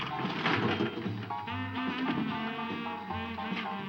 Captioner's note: machine clanking